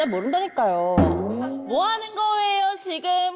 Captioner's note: sound effect of spotting something